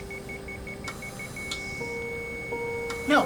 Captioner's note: heart monitor flatlines